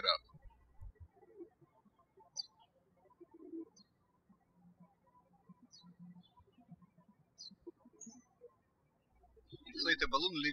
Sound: birds chirping

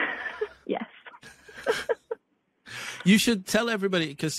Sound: laughing

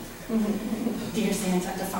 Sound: audience chuckles

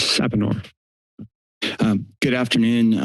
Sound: silence

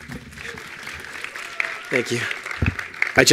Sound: attendees applauding

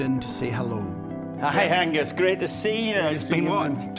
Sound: with Scottish accent

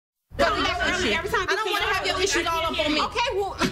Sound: students arguing back and forth

